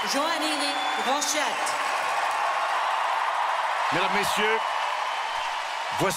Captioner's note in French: acclamations